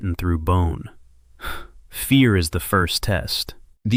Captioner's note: sighs